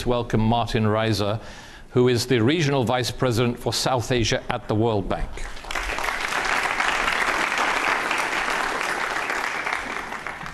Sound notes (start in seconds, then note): 5.4 audience applauds